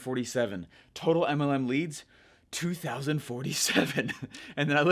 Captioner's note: laughs